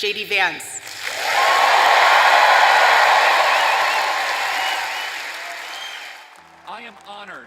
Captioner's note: cheers and applause